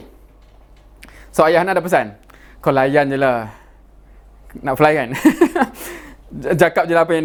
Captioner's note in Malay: ketawa